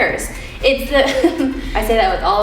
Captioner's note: giggles